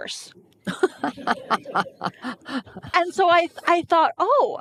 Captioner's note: laughing